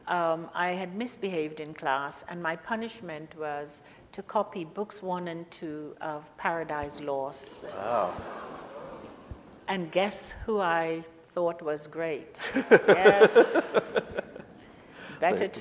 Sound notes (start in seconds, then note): 7.6 audience laughter and ohs; 12.4 laughs; 12.4 audience laughs